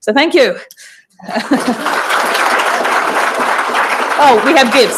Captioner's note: applause